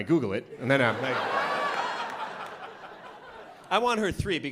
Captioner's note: laughter